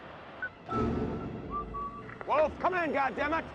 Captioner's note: whistling